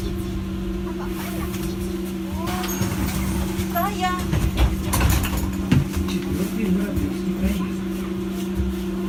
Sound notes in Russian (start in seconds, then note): 2.2 открытие дверей